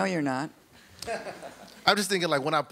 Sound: audience chuckles

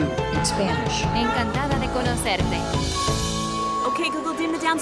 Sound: speaking spanish

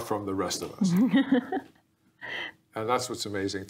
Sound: laughing

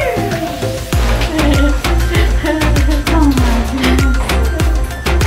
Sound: laughing

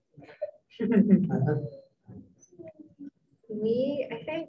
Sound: group giggles

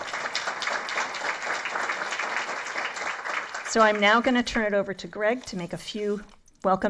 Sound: applause

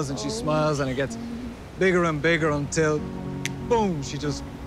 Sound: snaps fingers

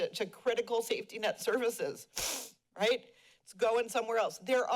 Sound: sniffles

